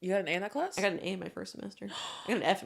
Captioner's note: gasp